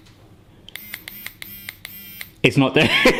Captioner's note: clicking and buzzing